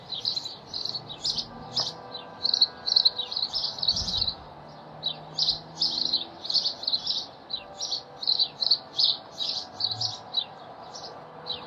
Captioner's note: birds and bell